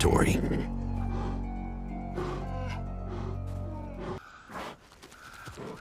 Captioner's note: smaller bear pants